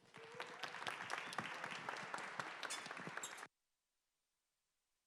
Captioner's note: applause